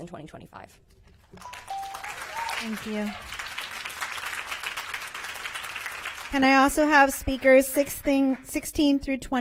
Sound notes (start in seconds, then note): 7.3 applause